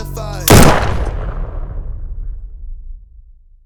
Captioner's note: gun shoots